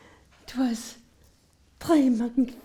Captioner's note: speaks French